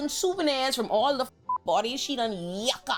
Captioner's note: beep